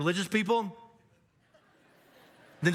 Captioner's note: audience laughs